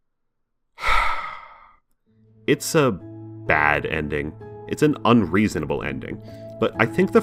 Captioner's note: sigh